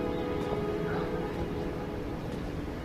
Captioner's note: whispering